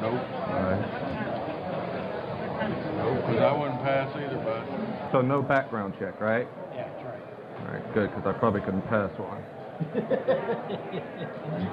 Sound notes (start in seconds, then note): 9.8 laughter